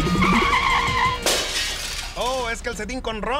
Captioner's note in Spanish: Sonido de choque